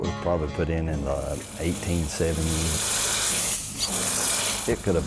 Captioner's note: steam hissing